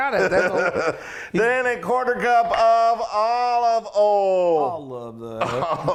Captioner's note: laughs